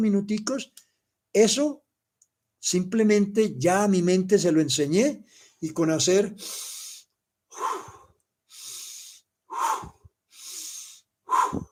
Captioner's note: inhale, puff, 6 times